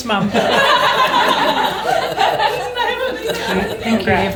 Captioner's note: all laugh